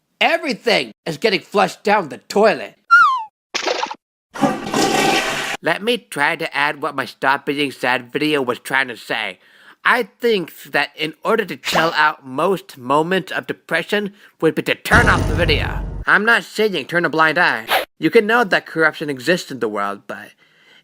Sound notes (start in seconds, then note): 3.5 splash!; 4.3 flush!